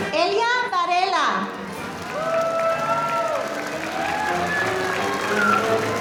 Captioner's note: audience applauding